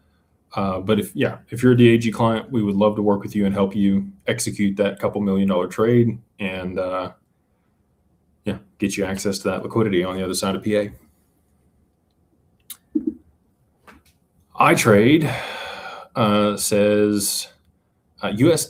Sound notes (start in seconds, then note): 15.2 sighs